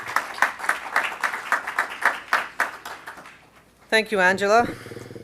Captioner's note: applause